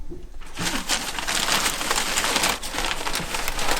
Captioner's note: paper crumbling